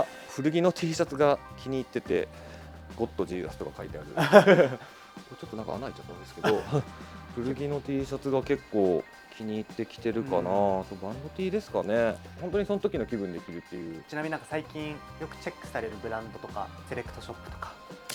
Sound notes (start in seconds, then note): 6.7 laughs